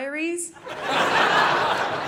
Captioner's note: audience laughing